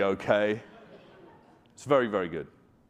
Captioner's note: audience laughing